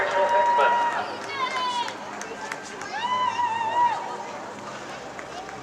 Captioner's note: people in Crowd Cheering